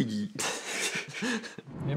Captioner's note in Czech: smích